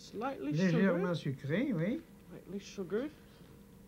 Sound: speaking French

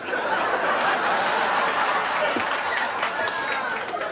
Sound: laughter

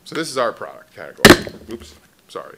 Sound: banging sound

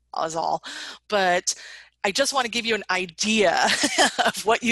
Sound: laughs

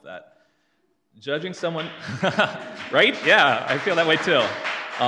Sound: audience claps

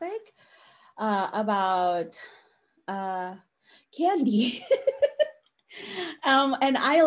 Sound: laughs

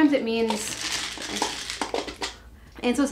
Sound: objects rattles

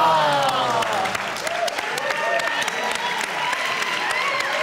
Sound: cheers

